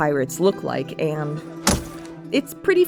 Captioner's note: money bag goes thunk